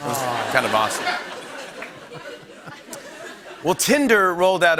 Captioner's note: laughter